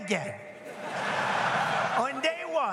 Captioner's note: audience laughs